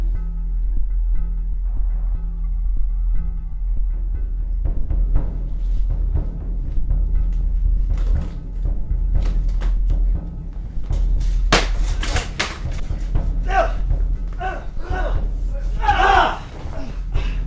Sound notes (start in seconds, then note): 5.2 ominous music intensifies; 12.9 both grunting and yelling